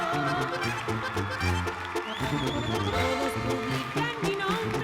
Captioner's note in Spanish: Aplausos